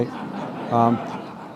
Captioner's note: laughter